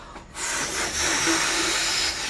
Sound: blows

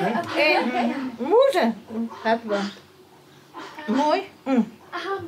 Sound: speaking Armenian

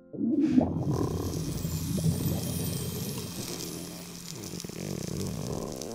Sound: gurgling; twinkling

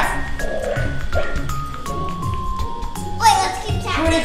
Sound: barking

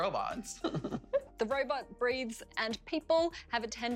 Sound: laughter

